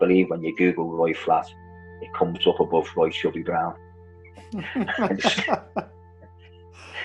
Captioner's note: laughter